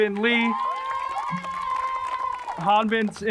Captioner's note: crowd cheers and applauds